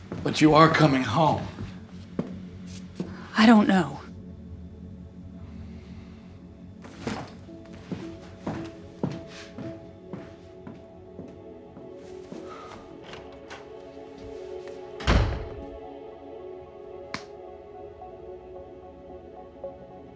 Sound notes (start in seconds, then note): 6.9 footsteps echo; 17.4 ominous music